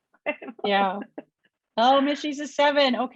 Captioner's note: chuckles